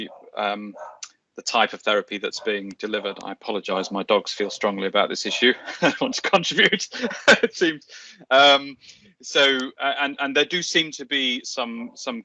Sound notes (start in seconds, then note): 2.9 dog barking; 6.1 laughing